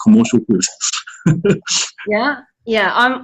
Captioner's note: laughs